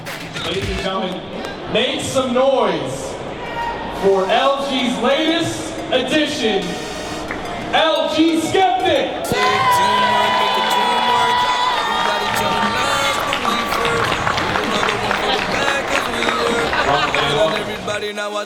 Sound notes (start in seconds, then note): 9.8 cheering crowd